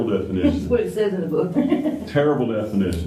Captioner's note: laughter